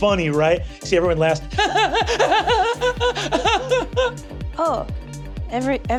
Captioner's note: frightened laughing